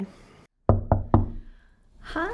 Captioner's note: knocks